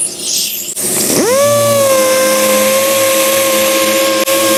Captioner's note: sander hums